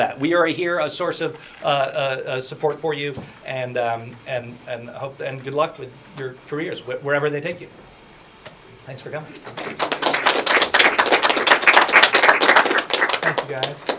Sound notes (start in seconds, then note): 9.4 applause